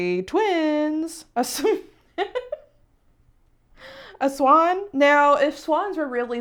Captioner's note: laughing